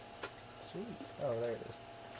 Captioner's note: sarcastically